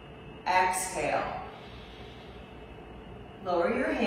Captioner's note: exhales